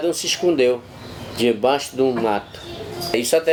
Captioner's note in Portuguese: pássaros cantando